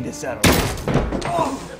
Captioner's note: gunshot bangs